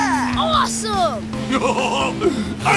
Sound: laughing

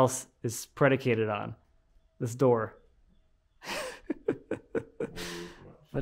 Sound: laughing

